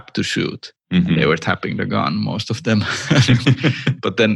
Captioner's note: laughter